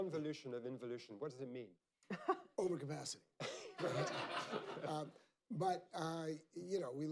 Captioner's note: laughter